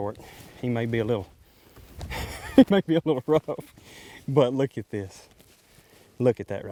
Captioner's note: laughing